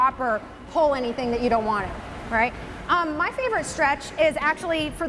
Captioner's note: none